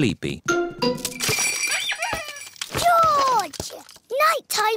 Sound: bells ring and toys squeak

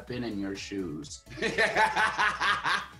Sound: laughs

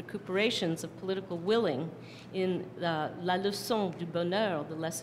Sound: non-english speech

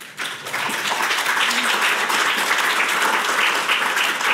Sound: audience applauds

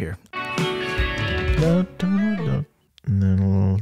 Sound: humming along to the song

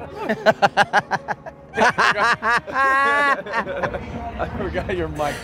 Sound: Edwards laughing

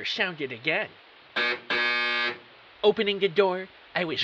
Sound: buzzer

